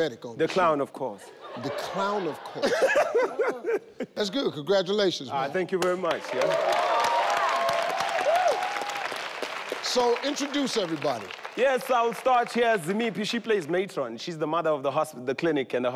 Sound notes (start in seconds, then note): 1.4 laughing; 6.2 audience cheering